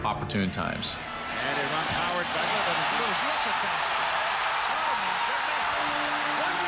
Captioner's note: crowd cheering